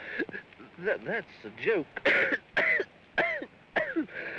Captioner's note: laughing & coughing; coughing; coughing violently